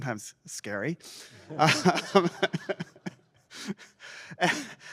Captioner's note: laughter